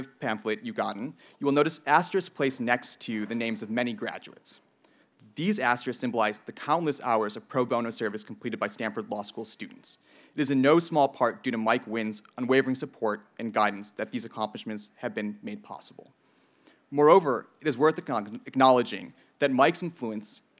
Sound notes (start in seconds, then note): none